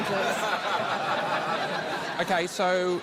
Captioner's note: laughter